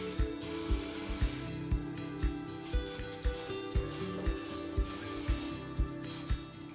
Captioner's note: sprayer hissing; pleasant music